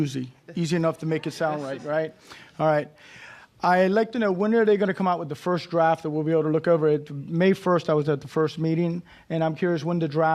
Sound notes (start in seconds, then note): none